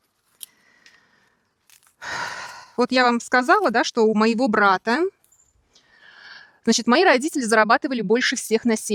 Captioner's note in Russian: вздыхает